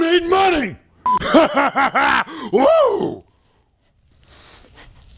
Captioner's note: demonic laughter